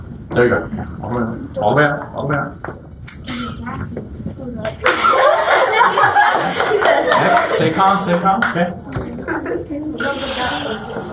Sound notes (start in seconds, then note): 4.8 laughter and applause